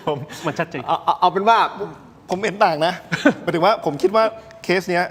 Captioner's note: laughs